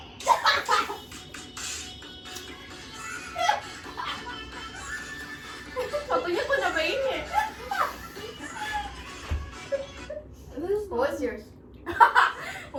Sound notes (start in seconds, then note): 0.2 laughs; 5.8 laughs; 8.6 all laughs; 12.1 laughs